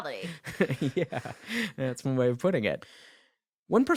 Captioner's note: chuckling